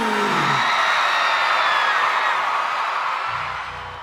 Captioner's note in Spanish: público aclama